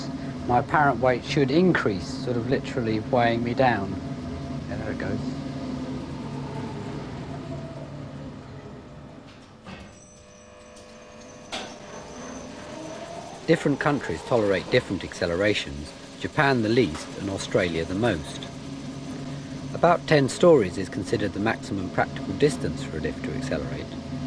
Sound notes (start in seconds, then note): 14.9 motor whirrs